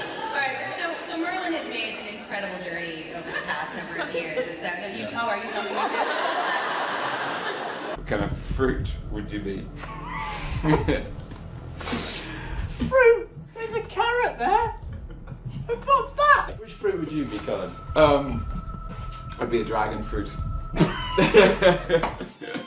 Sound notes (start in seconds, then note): 5.4 crowd laughs; 10.2 they laugh; 20.7 they laugh